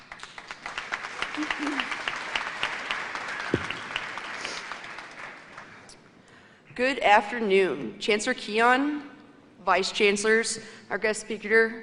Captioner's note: applause